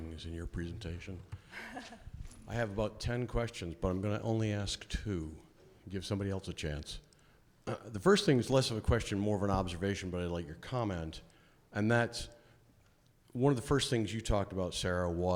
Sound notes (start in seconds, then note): 1.4 chuckles